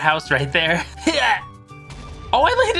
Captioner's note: exerting effort; TNT explodes